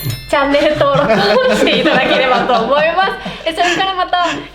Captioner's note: huge laughs